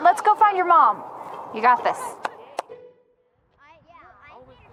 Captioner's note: claps